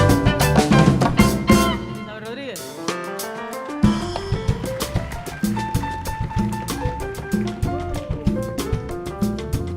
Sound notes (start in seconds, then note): 3.8 audience applauding; 5.9 lively instrumental music